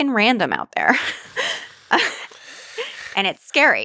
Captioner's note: both laugh